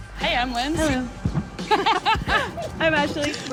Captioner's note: laughs